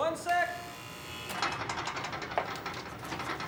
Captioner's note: door buzzer